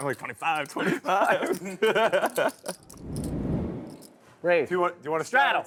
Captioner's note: players laughing